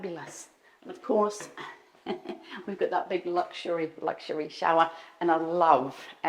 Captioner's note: chuckles